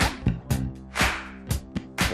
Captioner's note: clap